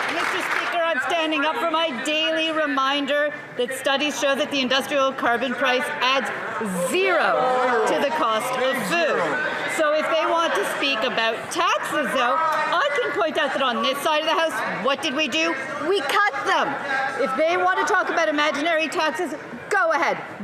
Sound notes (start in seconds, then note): 0.0 some Applause